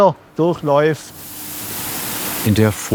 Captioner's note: hissing